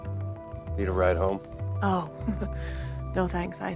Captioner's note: chuckles